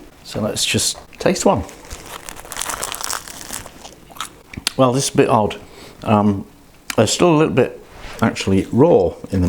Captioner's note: crunch!